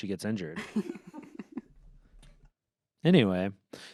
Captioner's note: laughs